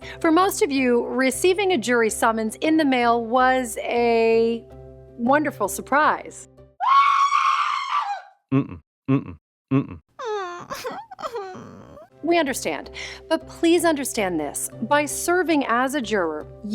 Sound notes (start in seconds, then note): 6.8 woman screams; 10.2 woman whimpering